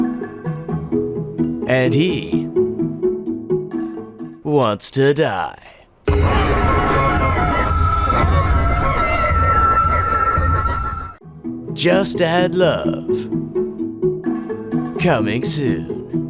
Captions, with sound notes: "And he..." "wants to die." [warped screams and distorted sounds] "Just Add Love." "Coming soon."